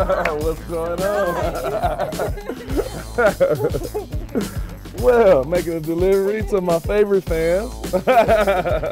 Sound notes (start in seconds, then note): 1.0 laughter; 7.9 laughter